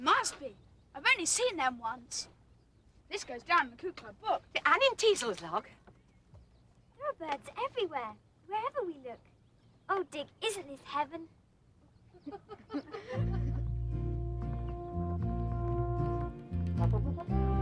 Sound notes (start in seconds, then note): 12.1 all laughing; 13.1 peaceful music